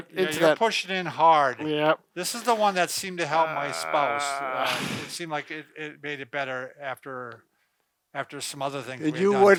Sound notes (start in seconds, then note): 3.2 groaning